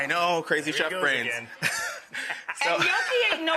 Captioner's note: laughs